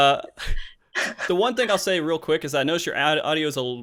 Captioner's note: laughs